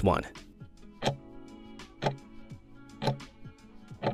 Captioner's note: timer ticking